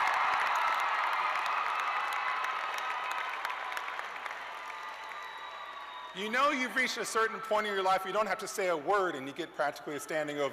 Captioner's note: cheers and applause